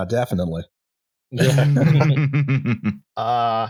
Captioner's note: laughter